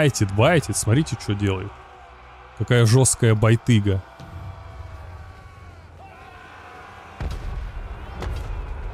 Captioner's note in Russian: крик